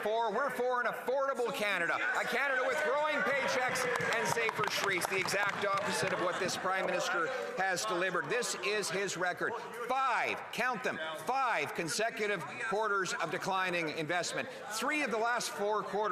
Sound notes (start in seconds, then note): 2.2 some Applause